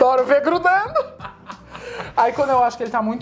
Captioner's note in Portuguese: risos